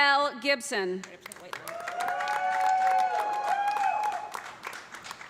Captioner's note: cheers and applause